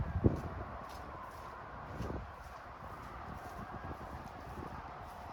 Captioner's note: distant sirens